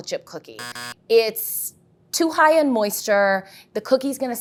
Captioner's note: buzzer sounds